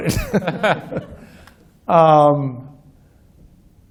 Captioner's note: laughter